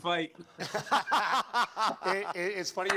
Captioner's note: laughs